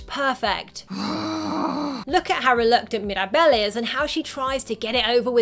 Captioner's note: growls